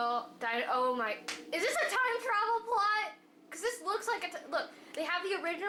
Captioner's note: claps